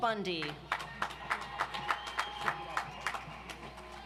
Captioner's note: audience applauds